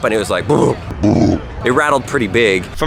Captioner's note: voice deepens